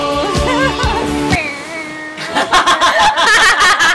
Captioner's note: hums; laughs